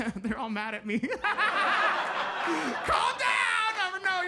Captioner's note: audience laughs